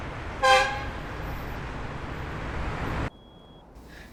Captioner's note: horn honking